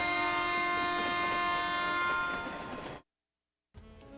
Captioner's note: train whistle